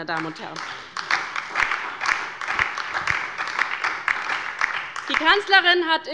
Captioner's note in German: Beifall bei der LINKEN und der SPD